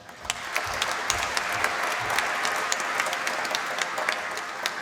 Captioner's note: applause